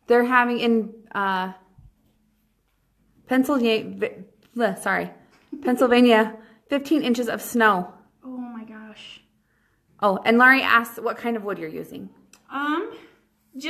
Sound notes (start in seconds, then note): 5.7 chuckles